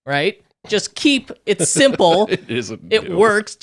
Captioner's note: laughing